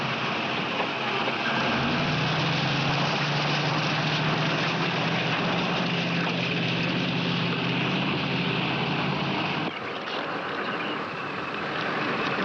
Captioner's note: motor revving